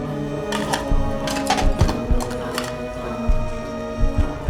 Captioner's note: eerie music; medical tools clacking